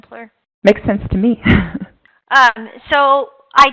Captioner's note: chuckling